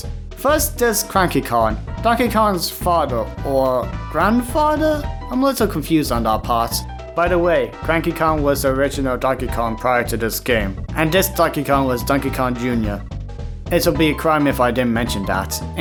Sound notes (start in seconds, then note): none